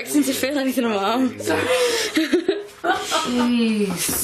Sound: laughing

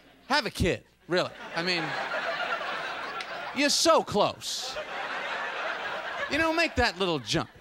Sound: audience laughter

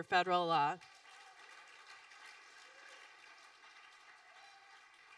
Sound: audience applauding

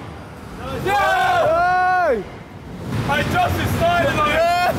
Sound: all cheering

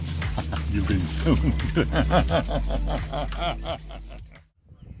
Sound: laughs

